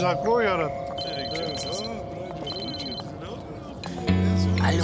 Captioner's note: phone rings